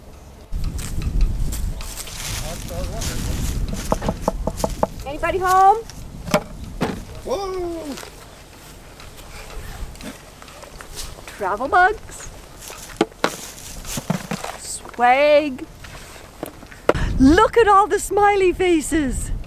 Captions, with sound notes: [knock, knock, knock] Anybody home? Travelbugs. SWAG Look at all the smiley faces.